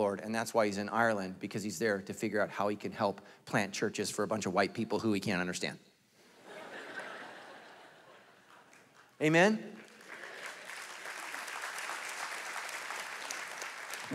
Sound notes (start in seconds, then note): 6.4 congregation laughing; 10.4 congregation applauding